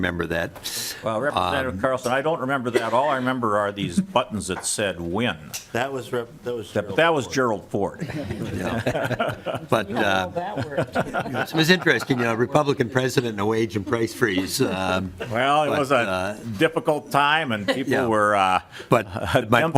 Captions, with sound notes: HAVE EXEMPTION AFTER EXEMPTION UNTIL THE WHOLE THING JUST BLEW UP. SOME PEOPLE REMEMBER THAT. >> REPRESENTATIVE CARLSON. I DON'T REMEMBER THAT. ALL I REMEMBER IS THESE BUTTONS THAT SAID WHEN. >> THAT WAS GENERAL FORD. >> [CHUCKLING]. >> . >> IT WAS INTERESTING. REPUBLICAN PRESIDENT IN THE AGE